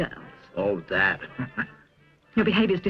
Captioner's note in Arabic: ضحكة مكتومة